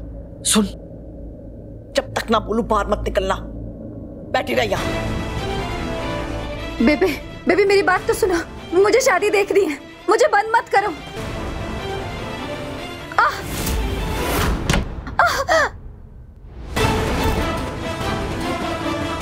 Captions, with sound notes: Listen, don't go out until I say so. Just sit here. Mom... Mom, listen to me. I want to go to the wedding. Please don't lock me here. Ah! [Impact] Ah! [Dramatic music]